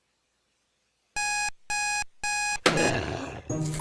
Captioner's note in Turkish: Saat alarmı çalar; Zombi hırlar